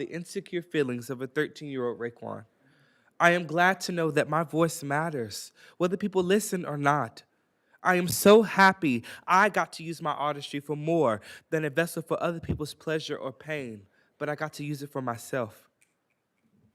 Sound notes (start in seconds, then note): none